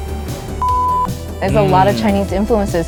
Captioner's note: video beeping